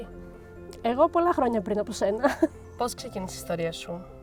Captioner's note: laughs